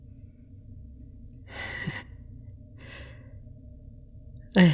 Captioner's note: sad chuckle